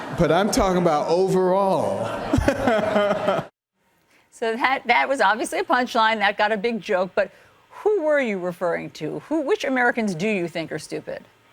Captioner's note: laughter